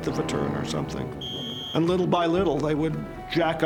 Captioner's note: whistle blows